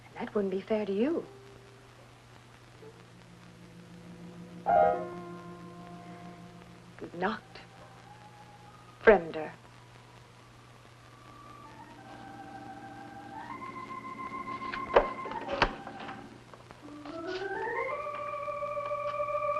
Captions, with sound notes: and that wouldn't be fair to you. Gute nacht, fremde. (stirring music) (door opening)